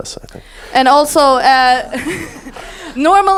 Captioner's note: audience laughs